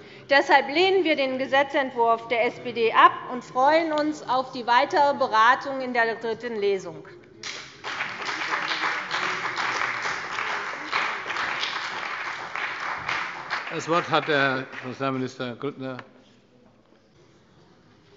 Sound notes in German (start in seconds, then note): 7.4 Beifall bei der CDU und dem BÜNDNIS 90/DIE GRÜNEN